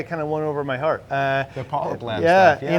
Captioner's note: murmurs